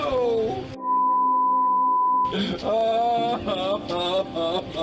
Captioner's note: sobbing